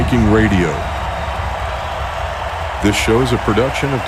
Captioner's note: crowd applauding and cheering